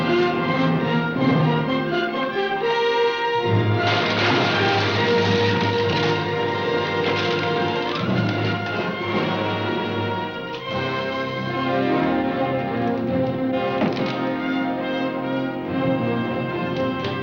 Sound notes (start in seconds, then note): 3.6 clattering